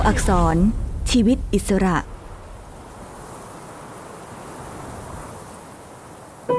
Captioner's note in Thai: เสียงคลื่น